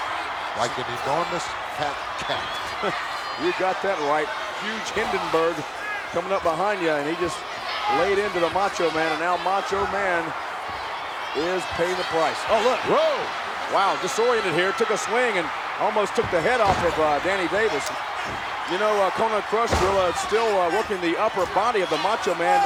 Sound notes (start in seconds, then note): 3.1 laugh